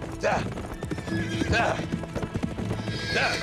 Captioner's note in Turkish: At kişneme sesi